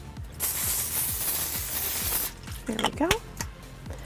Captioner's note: spray hissing